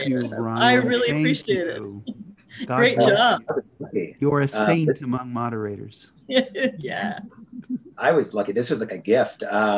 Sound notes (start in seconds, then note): 6.3 laughs